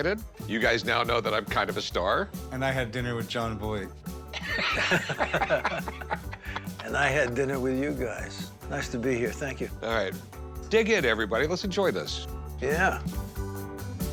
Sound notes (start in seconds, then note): 4.3 laughter